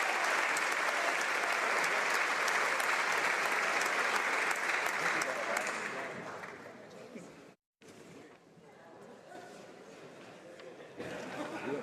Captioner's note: applause